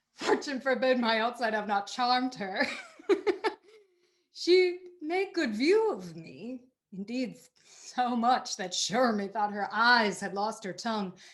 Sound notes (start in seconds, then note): 2.7 laughs